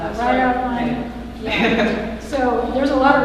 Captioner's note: laughter